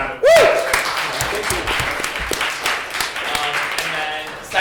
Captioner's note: applause